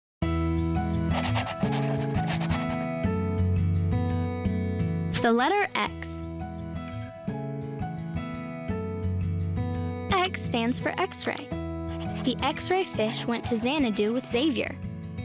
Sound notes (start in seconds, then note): 1.0 gentle music; 1.2 letters screeching